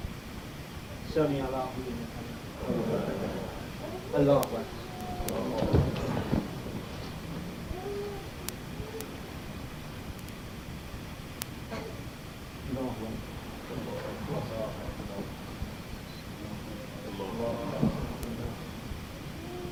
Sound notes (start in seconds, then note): 0.2 speaking in foreign language; 5.0 people chattering; 8.0 speaking in foreign language